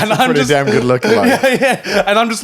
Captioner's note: all laughing; laughing